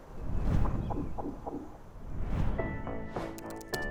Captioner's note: screen whooshing; lively music; text typing